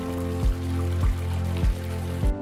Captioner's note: running water